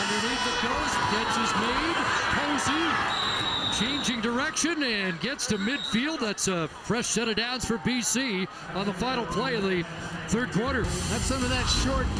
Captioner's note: loud Crowd Noise